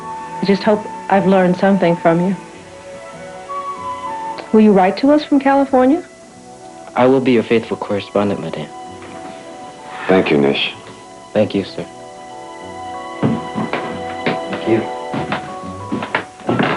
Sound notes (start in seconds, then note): 13.0 footsteps